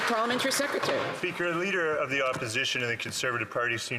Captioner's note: some Applause